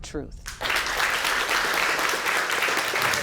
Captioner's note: applause